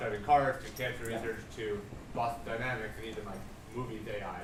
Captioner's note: speaking off mic